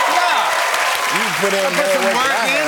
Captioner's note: cheers and applause